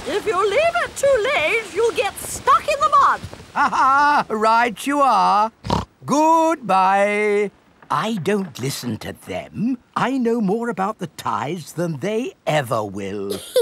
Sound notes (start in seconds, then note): 3.5 laughs; 5.6 snorts